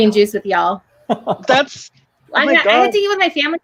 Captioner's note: laughing